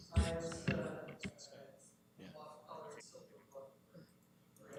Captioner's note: speaking off mic